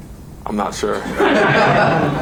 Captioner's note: laughing